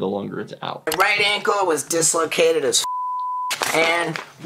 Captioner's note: beep